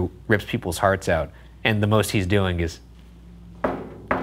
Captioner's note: knocks